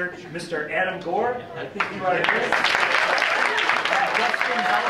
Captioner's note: clapping